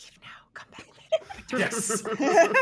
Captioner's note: everyone laughs